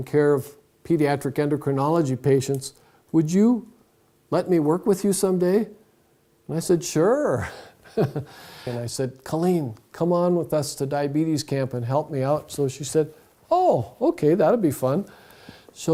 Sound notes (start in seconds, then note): 7.5 laughs